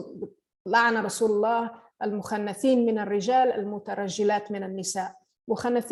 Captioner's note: line in Arabic